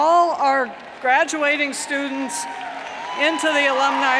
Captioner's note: cheers and applauds